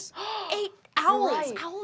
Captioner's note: gasps